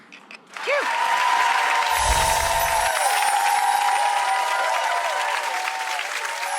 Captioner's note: audience cheering and clapping